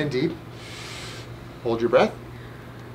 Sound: breathing

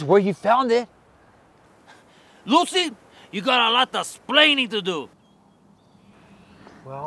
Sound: imitating Desi Arnaz

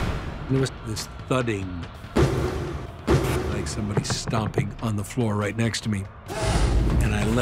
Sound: thuds

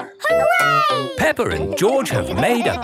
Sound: laughing

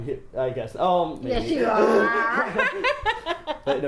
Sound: laughs; laughs loudly; almost growling

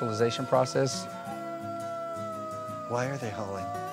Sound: wolves howling

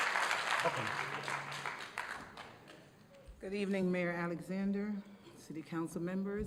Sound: applause

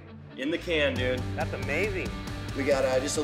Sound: none

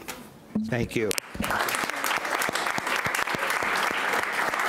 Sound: clapping

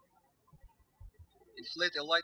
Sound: birds chirping

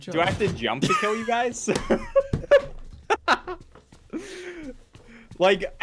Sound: Spiff hehehe-ing

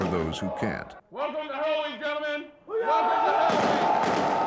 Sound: guns firing

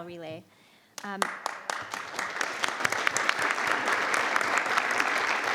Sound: crowd clapping

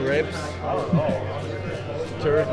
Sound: camera man laughs

